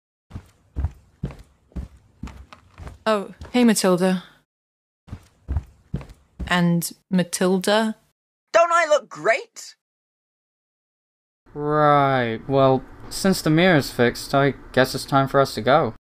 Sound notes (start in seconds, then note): none